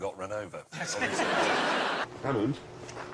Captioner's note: laughter